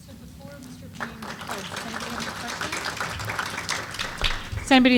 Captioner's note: applause